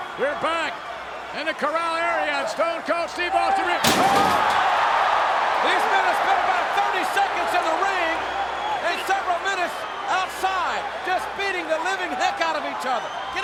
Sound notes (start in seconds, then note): 3.8 body thuds; 4.2 audience gasps